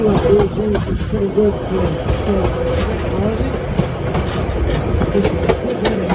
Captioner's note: commentator in background